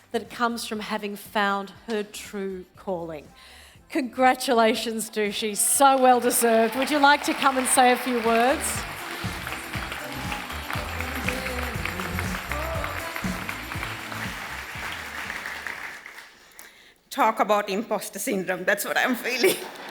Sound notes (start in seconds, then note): 11.1 audience applause; 19.5 audience laughing